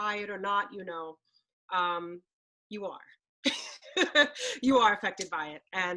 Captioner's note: laughs